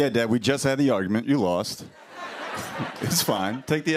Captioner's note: laughter